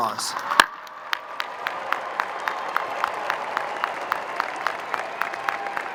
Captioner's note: crowd cheering and applauding